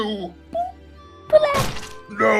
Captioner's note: vomit noise